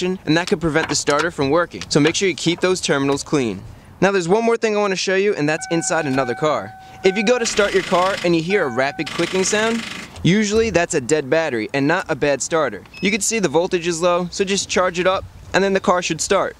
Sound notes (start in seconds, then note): 7.5 rapid clicking